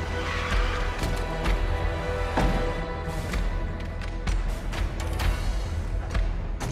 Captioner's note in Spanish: Chirrido de llantas